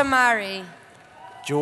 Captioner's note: cheering